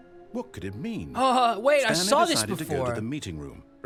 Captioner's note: sarcastic